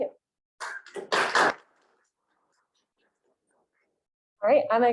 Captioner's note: audience claps